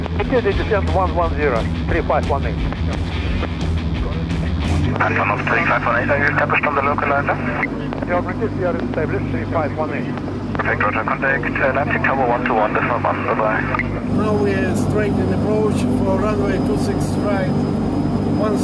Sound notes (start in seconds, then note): 2.7 upbeat music; 8.2 speaking in foreign language